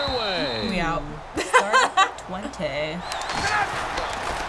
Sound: laughs

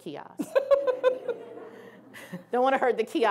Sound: laughing

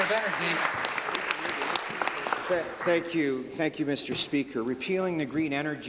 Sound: applause

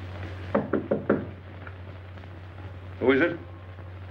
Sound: door knocking

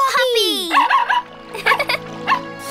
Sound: barking; giggling

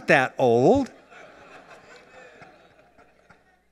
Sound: laughter

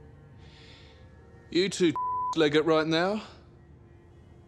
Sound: beep

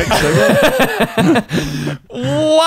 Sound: laughing

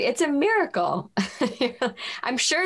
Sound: laughs

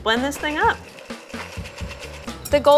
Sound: blender running

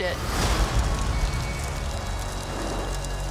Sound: fire crackling

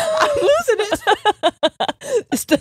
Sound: both laughing

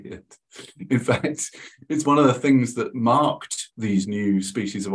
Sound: chuckles

